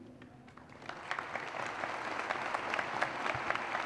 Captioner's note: applause